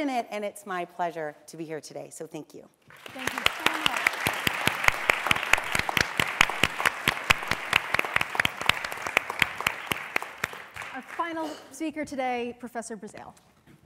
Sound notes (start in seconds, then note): 2.7 applause; 5.0 applause